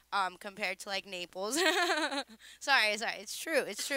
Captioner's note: laughing